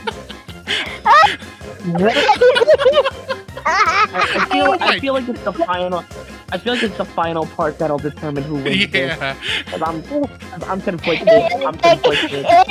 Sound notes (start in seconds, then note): 1.8 continue laughter